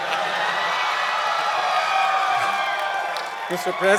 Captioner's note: cheering and Applause